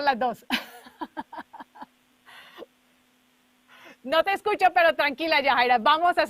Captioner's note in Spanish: Risas